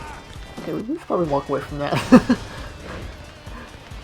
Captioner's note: awkward chuckles